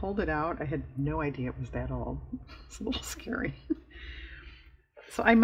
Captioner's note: laughs